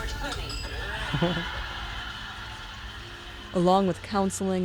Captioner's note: laughter